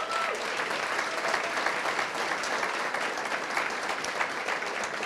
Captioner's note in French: Acclamations et applaudissements